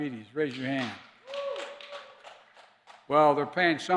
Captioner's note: applause